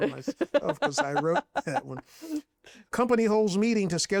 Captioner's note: laughs